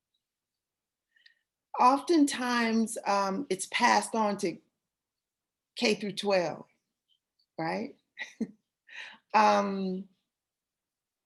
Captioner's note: laughter